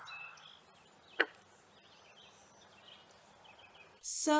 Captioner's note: frog croaks